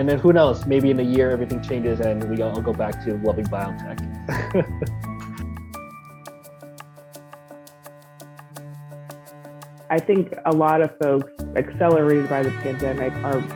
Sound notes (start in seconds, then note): 4.2 chuckles; 5.5 gentle music